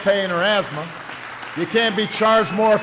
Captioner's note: applause